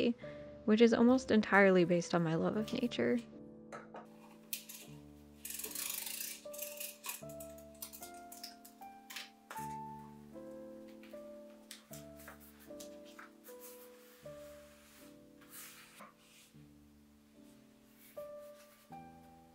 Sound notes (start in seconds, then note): 3.4 soft crafty noises